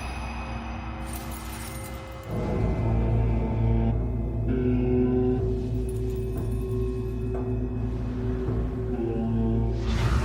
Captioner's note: jewelry clinking